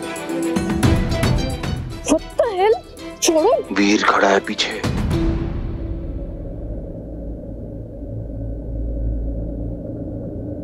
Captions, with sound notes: - What the hell! Let go! - Veer is standing behind you. [wind blowing silently]